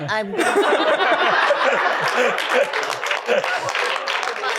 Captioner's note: laughter